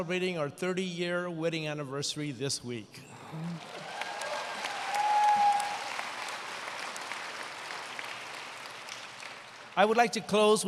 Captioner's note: applause